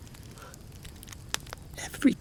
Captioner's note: fire crackling